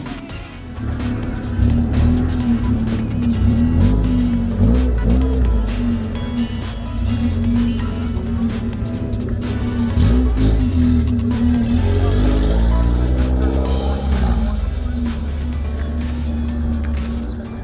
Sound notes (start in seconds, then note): 0.9 cars revving